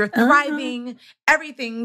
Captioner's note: laughs